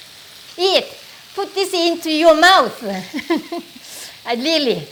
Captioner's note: laughs